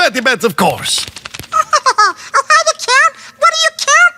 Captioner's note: elmo laughs